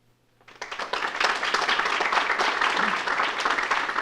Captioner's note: audience applauding